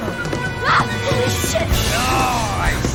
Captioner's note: screams